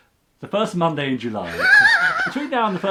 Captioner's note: laughs